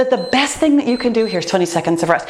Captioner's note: timer beeps